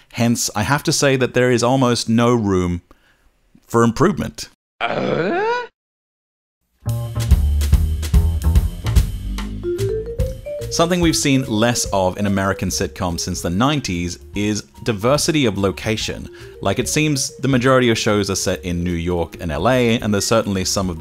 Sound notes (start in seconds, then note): 4.8 Tim Allen Grunt Glissando